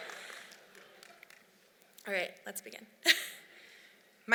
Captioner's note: laughs